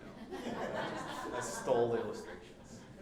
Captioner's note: group laughing